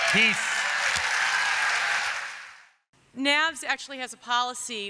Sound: applause

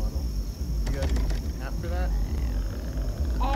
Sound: door rattles

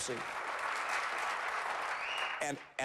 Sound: applause

